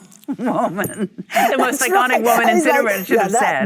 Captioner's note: Cate and Michelle laugh